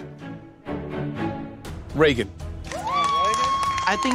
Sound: cheering

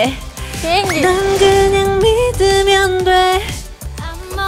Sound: swoosh

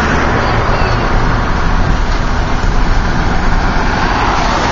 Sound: cars driving

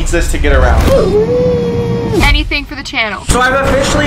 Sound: yells

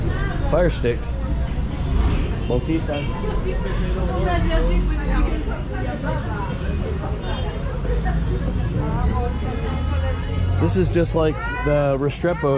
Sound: people speaking in spanish

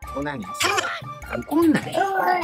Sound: monkey heartbeat

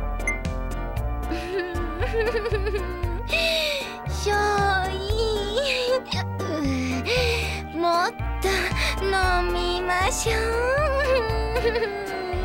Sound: laughing

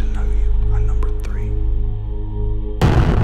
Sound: explosion

